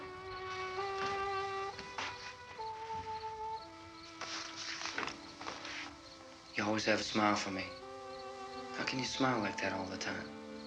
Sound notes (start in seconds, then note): none